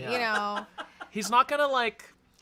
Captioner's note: laughs